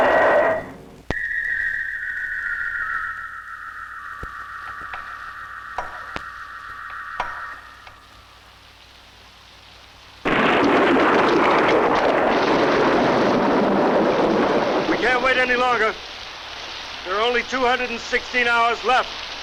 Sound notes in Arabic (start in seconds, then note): 0.3 موسيقى غريبة; 10.2 هدير الرعد